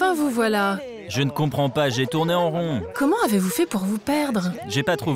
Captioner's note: French spoken audio